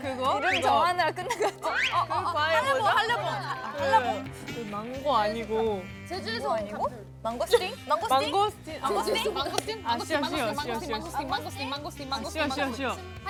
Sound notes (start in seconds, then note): 3.6 frustrated